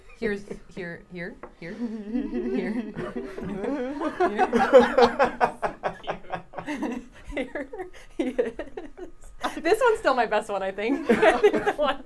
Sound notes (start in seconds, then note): 4.5 everyone laughing